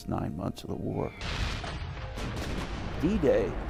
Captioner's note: explosions